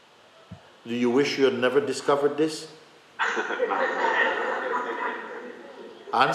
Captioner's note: laughter